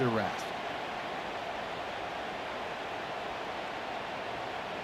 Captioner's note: cheering, applause